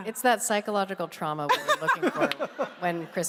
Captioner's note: laughs